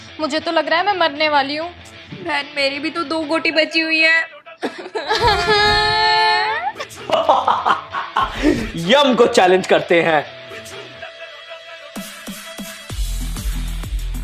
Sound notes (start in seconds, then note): 4.7 crying; 7.1 laughing